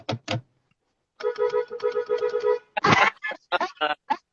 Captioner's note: honks horn